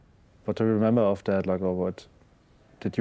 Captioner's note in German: englisch